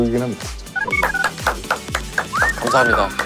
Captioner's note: automatic applause